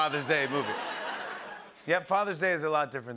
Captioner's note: laughter